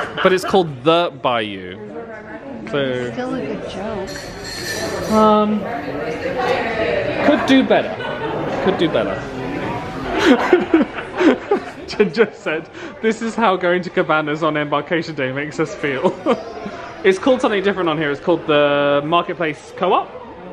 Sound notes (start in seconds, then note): 0.0 laughs; 4.7 crowd chattering; 10.2 laughing